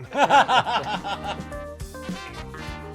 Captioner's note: laughter